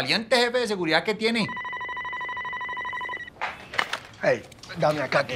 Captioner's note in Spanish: Suena el teléfono